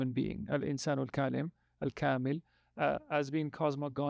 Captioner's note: speaking in foreign language